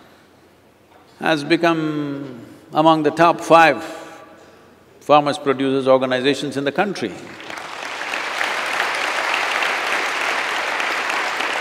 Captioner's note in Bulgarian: аплодисменти